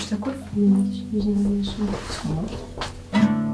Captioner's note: someone knocking